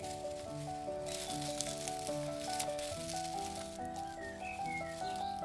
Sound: rustling

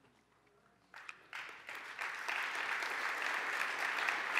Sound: applause

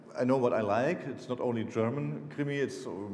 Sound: speaking foreign language

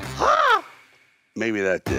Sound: Sylvester crows

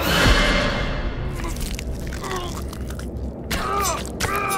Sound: grunting and choking

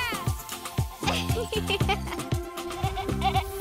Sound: laughing; upbeat music

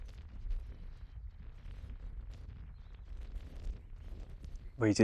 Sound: wind blowing

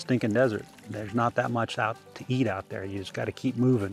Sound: babbling water

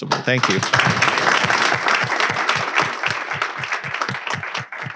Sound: audience clapping

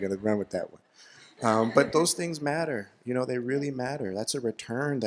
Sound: laughter

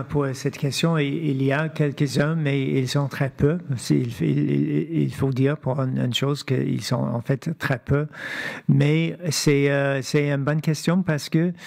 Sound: speaking French

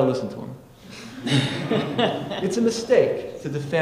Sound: audience laughing

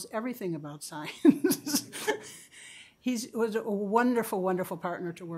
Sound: chuckles

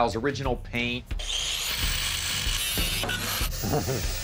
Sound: saw whirring

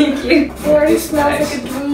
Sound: laughs

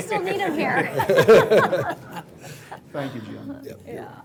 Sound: laughing

